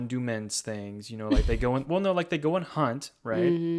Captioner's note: chuckles